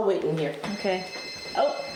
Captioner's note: phone ringing